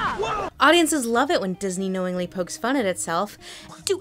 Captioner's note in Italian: voce fuori campo